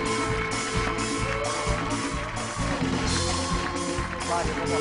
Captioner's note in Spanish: Aplausos